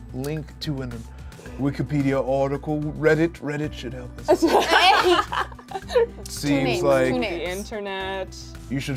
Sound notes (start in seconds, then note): 4.3 laughs